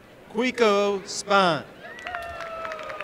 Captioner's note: applause